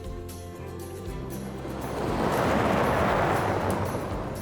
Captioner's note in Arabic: خرخرة المحرك